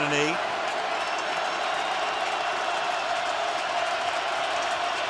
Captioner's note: crowd cheering